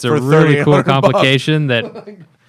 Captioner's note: laughter